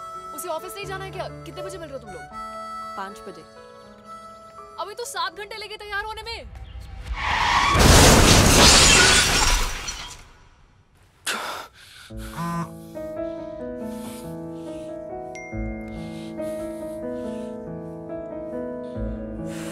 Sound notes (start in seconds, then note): 6.5 crash; 6.8 tires screeching; 11.2 gasping; 12.4 cell phone vibrates; 13.7 panting